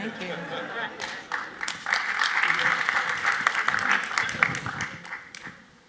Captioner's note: audience laughs and applauds